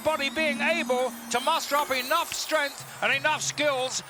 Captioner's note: Yokozuna claps